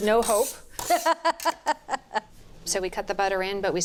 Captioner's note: Julia laughing